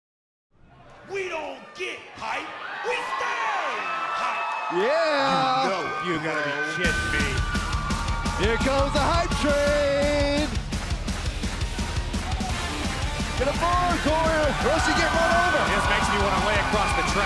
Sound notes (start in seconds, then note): 11.5 cheers and applause